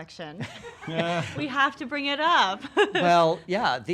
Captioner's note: laughs